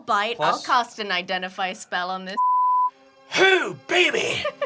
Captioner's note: beep